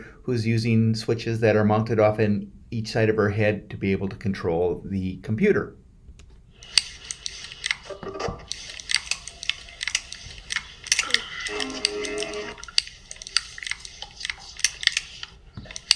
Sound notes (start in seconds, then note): 8.5 keys clicking